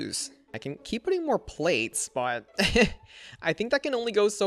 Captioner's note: laughs